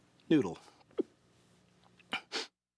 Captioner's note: burps